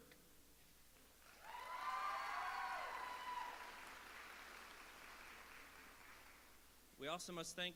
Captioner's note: applause